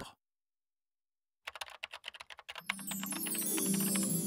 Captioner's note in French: cliquetis du clavier; musique de la harpe